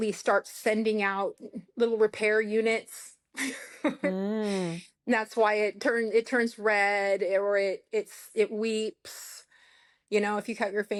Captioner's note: laughter